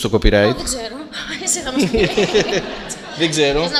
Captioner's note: laughter